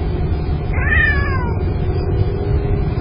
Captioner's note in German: Smoking-Kitty miaut